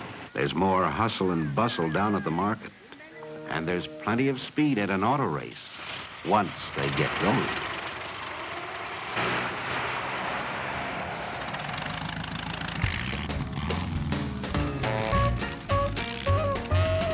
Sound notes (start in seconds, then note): 7.9 engines whirring; 12.1 engine sputtering to life; 14.7 jazzy music